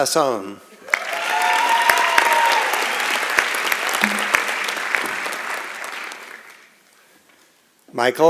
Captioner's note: applause and Cheering